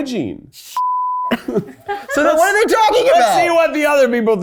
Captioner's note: beep